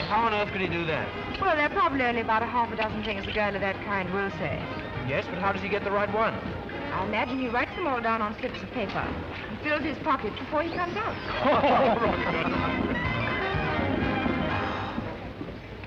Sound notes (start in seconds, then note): 10.7 laughing; 12.4 cheerful jazz music